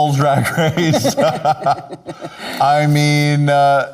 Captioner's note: both laughing